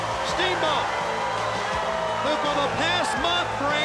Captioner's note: crowd cheering